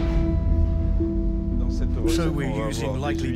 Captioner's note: soft music; speaking in foreign language